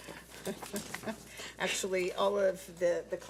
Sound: laughs

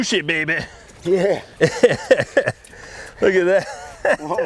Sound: laughs

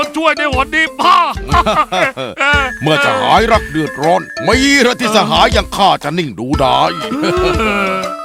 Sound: chuckle

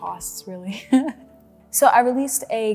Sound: laughs

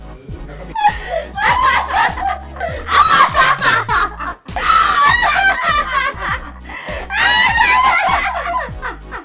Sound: evil Laughter

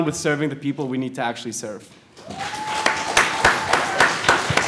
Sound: applause

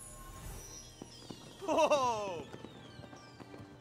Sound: Simba Cheers

